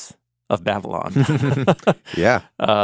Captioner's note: chuckling